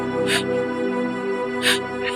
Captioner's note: crying